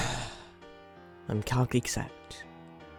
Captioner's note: sighs